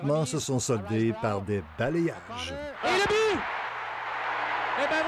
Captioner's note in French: cris de la foule